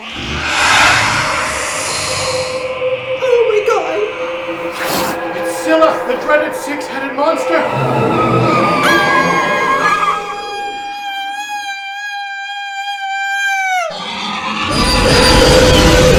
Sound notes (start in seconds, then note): 0.1 monstrous shrieking; 8.7 screaming; 14.1 monstrous shrieking